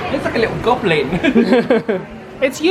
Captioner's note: laughs